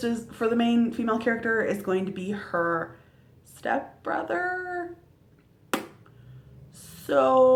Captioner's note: lip smack